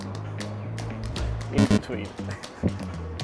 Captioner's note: upbeat music; chuckles